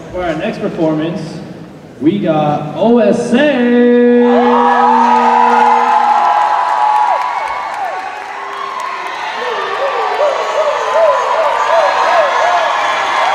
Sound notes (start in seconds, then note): 4.2 cheers and applause